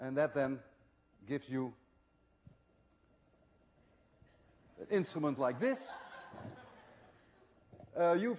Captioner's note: laughter